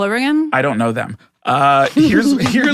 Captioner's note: Adelaide laughs